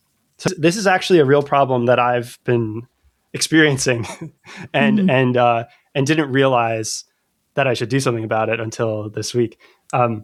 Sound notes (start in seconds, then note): 3.6 uh; 3.9 laughter